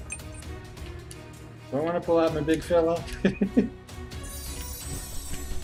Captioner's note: laughs